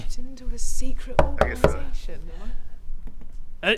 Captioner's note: knock knock knock